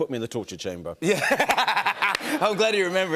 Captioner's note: laughs